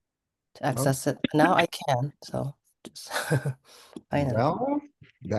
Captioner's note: chuckles